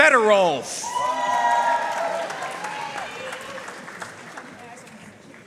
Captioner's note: audience cheering and applauding